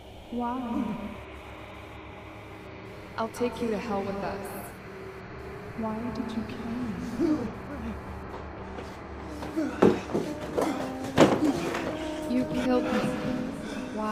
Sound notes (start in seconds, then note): 7.3 Kenny gasps